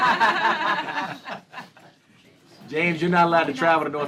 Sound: laughter

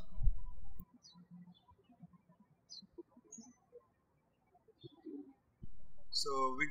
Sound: birds chirping

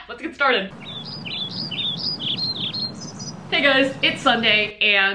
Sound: cute birdy tweet sound

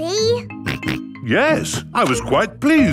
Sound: snorts

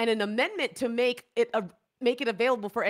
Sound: none

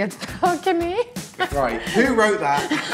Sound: laughs

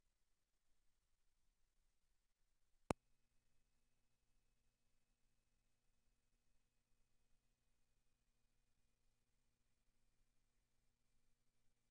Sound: silence

